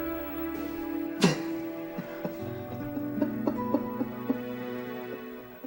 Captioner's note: sobs